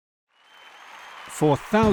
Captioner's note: crowd cheering